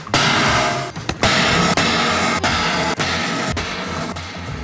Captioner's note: metal box clangs